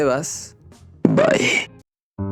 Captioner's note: playfully